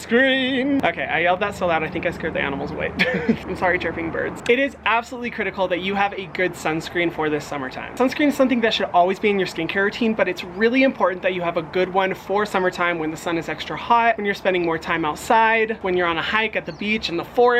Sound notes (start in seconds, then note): 2.9 laughs